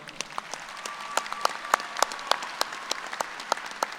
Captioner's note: applause